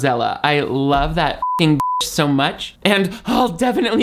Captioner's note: beep